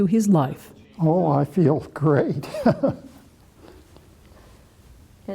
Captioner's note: laughs